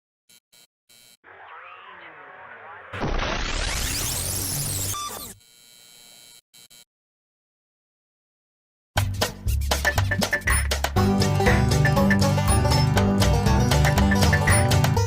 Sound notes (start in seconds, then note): 2.9 explosion; 4.0 beep